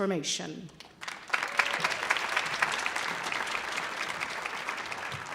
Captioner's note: audience applauding